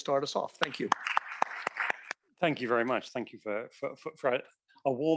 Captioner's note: applause